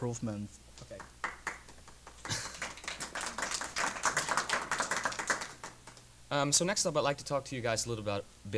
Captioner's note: applause